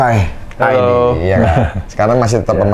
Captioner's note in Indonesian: ketawa